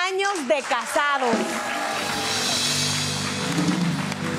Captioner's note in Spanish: Ovación